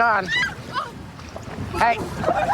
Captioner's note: screaming